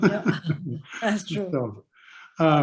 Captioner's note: Doug and Indra laughing